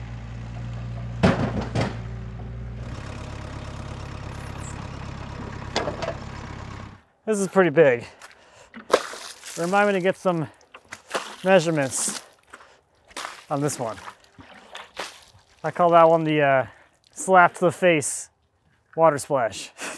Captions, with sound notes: (log clatters) This is pretty big. (water splashes) Remind me to get some measurements on this one. I call that one the slap-to-the-face water splash.